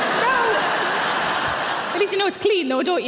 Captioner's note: audience laughing